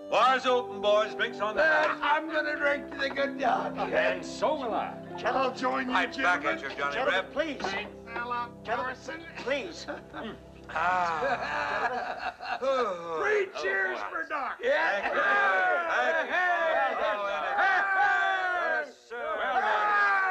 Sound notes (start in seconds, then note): 10.6 men laughing; 12.6 Doc groans; 14.6 men cheering